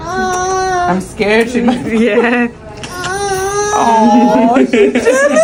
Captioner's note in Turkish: kahkaha